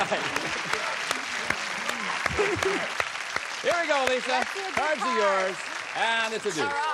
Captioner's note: applause